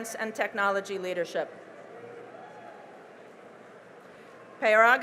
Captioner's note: cheering and applause